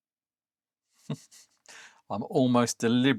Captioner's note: chuckles